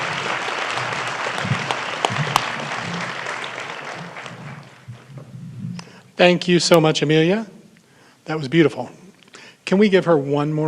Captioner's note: applause